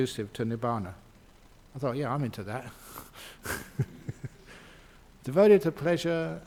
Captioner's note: Ajahn laughs